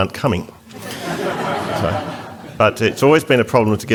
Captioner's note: audience Laughter